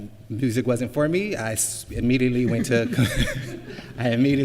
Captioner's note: laughs